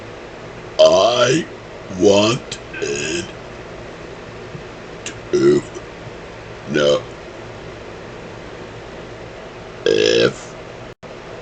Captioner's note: burping